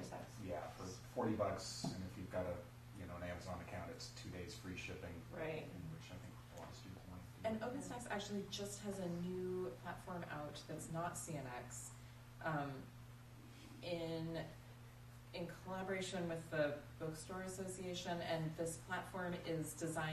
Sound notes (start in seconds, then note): none